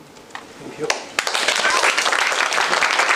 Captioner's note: applause